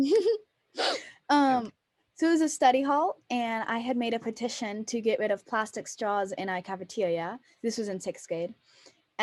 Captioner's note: small laugh